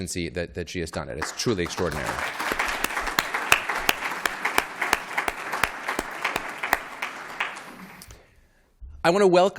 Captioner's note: applause